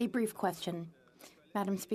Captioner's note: speaking French